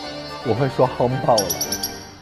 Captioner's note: choking up